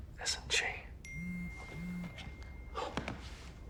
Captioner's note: phone dings